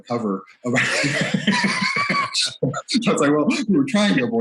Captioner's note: laughs